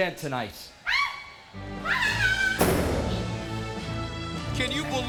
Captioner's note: dramatic music; Daffney shrieks